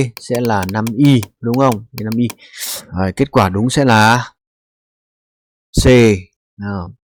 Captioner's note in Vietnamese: khịt mũi